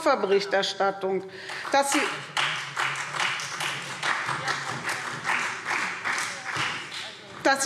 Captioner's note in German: Beifall SPD